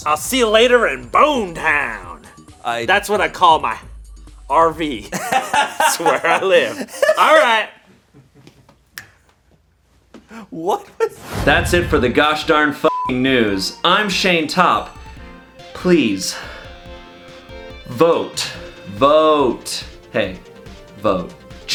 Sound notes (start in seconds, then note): 5.1 laughs; 8.9 snaps fingers; 12.8 beep